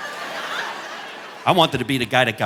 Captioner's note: audience laughing